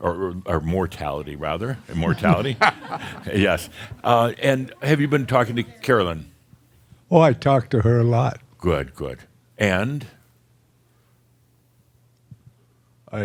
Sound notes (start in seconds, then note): 1.9 chuckles